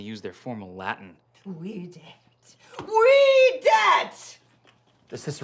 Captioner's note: angrily speaking Latin